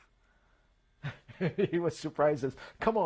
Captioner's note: laughs